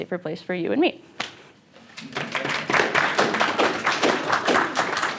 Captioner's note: applause